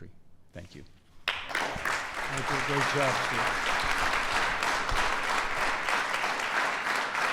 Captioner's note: applause